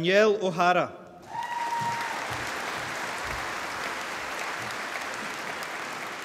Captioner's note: applause